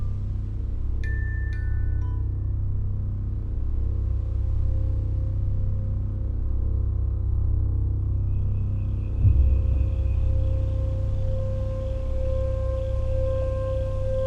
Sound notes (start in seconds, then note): 8.2 insects chirping; 10.5 moving to ominous music